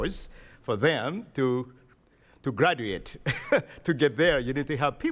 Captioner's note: chuckles